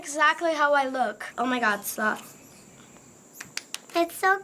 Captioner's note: clapping